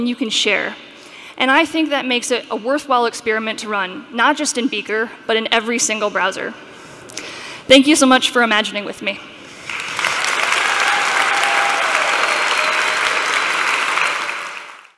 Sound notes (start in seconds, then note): 9.6 applause; 9.6 cheering and Applause